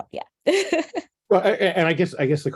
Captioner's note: laughs